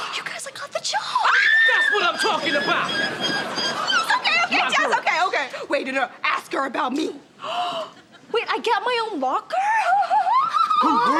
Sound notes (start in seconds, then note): 1.2 screams; 1.7 squealing; 7.4 gasps